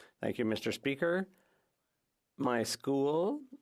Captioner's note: speaking French